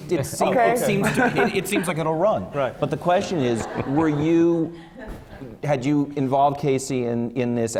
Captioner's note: laughter